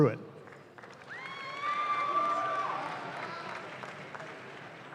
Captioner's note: audience claps